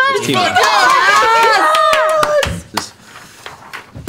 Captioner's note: yelling